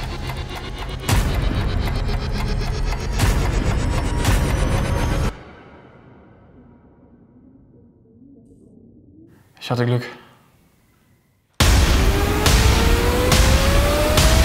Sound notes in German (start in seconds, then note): 0.0 Bedrohliche Musik; 5.2 Stille; 11.6 Bedrohliche Musik